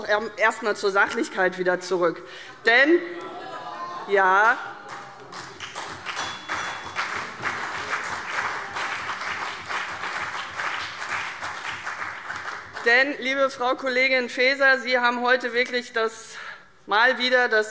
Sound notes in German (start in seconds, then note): 2.8 Beifall CDU und BÜNDNIS 90/DIE GRÜNEN